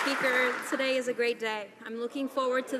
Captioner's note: some Applause